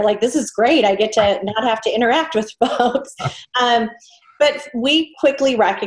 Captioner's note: chuckles